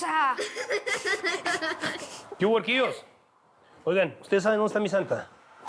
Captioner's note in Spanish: risas